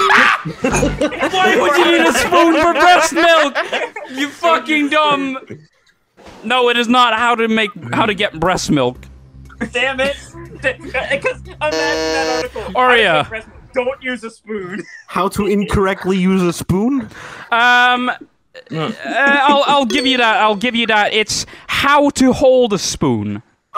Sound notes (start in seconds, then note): 0.0 hysterics; 0.0 everybody laughs; 11.6 buzzes